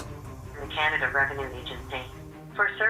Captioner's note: automatic voice